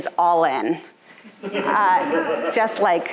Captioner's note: audience laughing